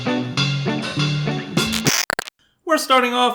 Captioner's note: static